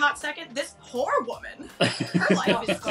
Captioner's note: laughing